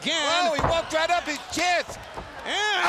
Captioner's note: none